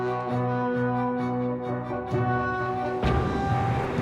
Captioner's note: cannon booms; wind blowing